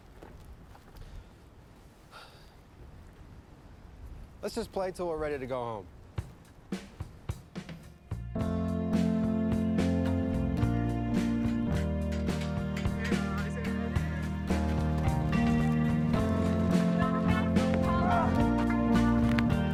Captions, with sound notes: [sighs] Let's just play until we're ready to go home. [chill-out music]